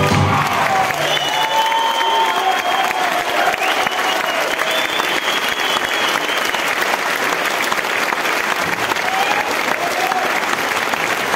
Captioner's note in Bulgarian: аплодисменти